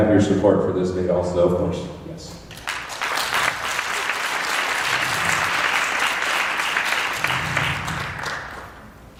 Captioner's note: applause